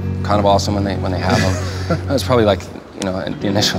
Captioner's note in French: rire